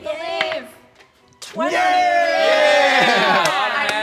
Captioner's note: die clacking; soft clapping